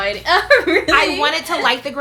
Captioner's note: laughs